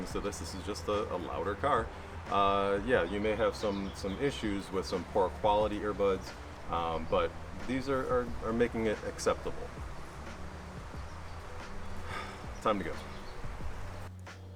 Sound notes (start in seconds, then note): 11.3 exhales